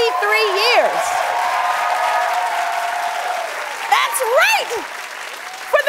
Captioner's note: cheering and applause